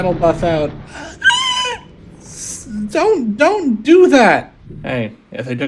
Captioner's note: Screech